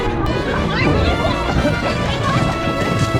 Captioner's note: cough cough